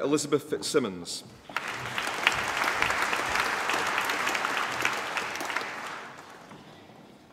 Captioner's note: applause